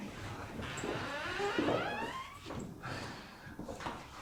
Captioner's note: door creaking